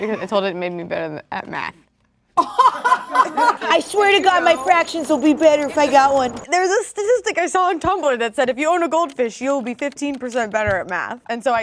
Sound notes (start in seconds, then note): 2.4 laughing